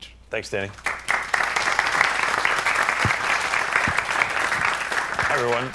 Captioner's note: applause